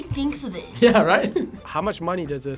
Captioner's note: laughs